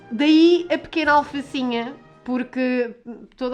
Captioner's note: none